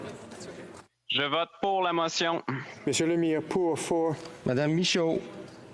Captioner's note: speaking FRENCH